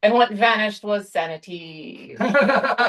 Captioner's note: laughter